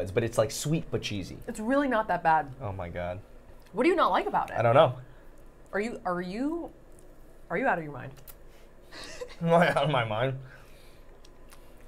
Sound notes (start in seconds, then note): 8.9 laughing